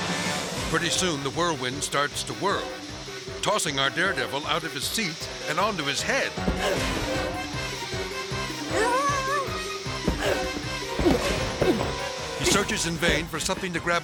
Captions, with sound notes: Pretty soon the whirlwind starts to whirl, tossing our daredevil out of his seat and onto his head. (rider grunting) (intense music continues) He searches in vain for something